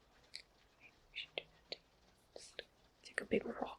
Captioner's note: whispers